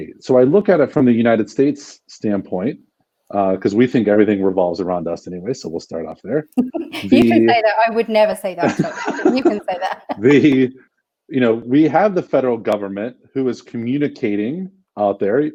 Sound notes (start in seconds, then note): 6.6 laughter